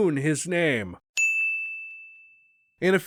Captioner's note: ding